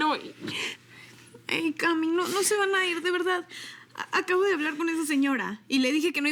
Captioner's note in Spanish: Sollozos